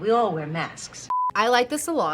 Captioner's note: beep